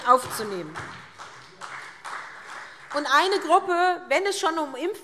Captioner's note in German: Beifall SPD